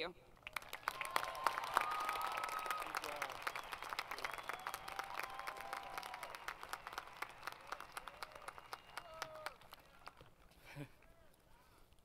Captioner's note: applause